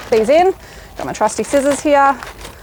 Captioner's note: bag rustling